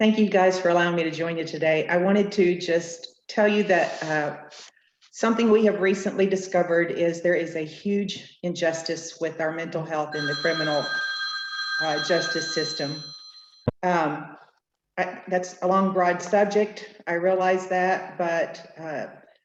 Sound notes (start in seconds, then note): 13.8 phone ringing